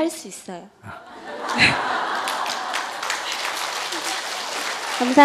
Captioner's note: audience Laughter; applause